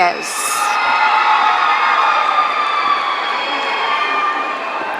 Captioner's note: audience cheering